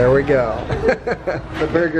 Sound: laughing

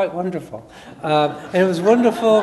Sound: audience laughs

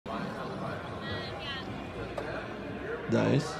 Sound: crowd chatters indistinctly

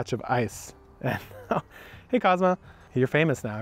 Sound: laughs

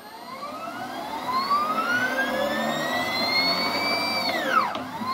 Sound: happy backward rotating noises

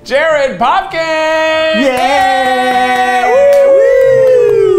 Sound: cheers

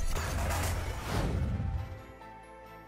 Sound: metal clanks; air whooshes; bright instrumental music

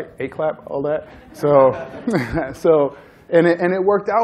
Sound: laughter

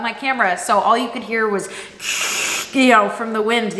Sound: static sound

